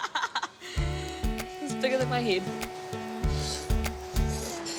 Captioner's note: laughs